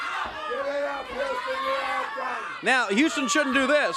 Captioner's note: crowd chatter